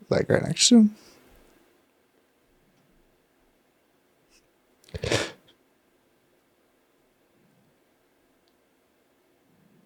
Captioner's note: sniffling